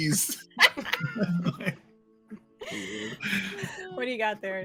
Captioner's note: all laughing